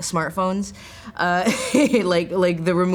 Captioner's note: laughs